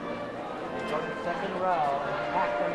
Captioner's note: overlapping chatter